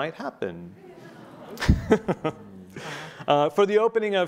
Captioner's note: laughing